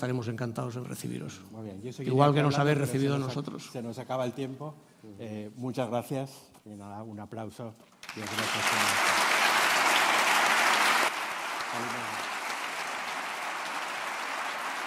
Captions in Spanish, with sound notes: fábrica. Estaremos encantados en recibirlos, igual que nos habéis recibido vosotros. - Se nos acaba el tiempo, muchas gracias. Y nada, un aplauso. [Aplauso]